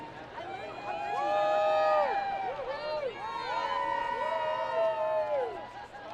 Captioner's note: students cheering and screaming